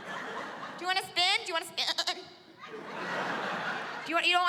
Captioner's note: mimics baaing